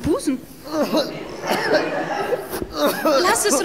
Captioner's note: coughing